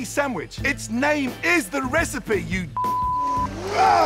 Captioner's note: beep